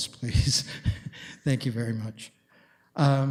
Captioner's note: chuckles